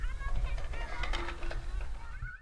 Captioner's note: children playing